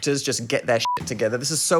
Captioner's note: beeping